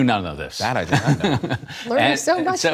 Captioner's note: laughter